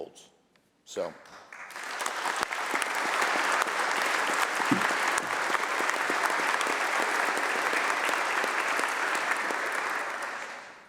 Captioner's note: applause